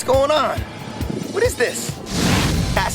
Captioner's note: energy blasts